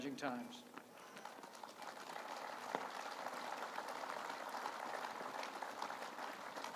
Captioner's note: applause